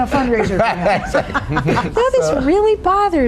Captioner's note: laughing